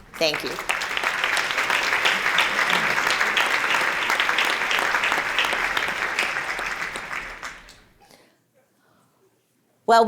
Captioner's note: applause